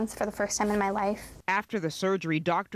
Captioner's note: voiceover